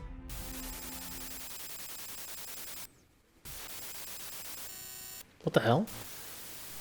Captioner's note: static glitching